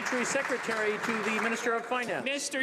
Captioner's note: some Applause